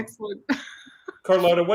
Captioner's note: chuckles